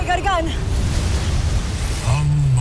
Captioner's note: sparkling whoosh